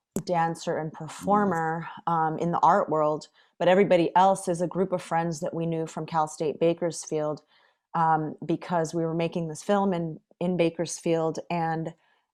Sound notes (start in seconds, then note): none